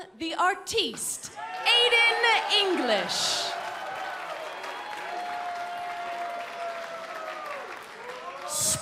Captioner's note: crowd cheering